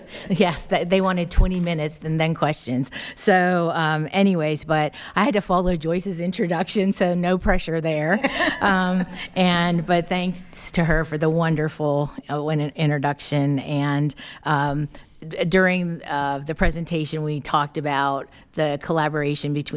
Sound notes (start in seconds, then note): 0.6 laughing; 8.1 attendees laughing